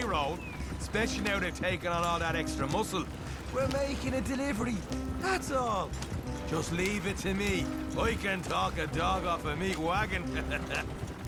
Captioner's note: laughs